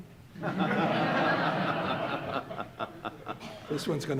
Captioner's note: audience laughing